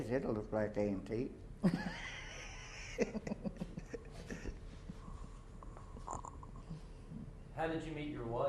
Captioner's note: laughter